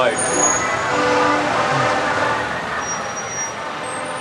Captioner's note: horns honking